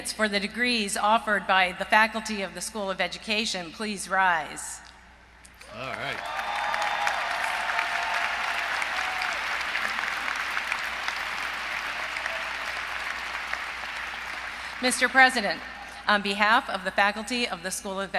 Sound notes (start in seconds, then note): 7.5 applause